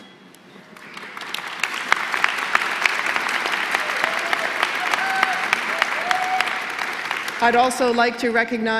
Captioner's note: applause